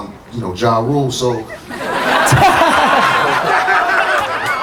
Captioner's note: audience laughter